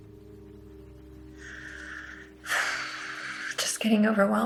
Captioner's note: sighs